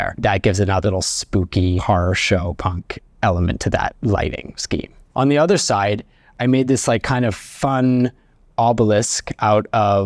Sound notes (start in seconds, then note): none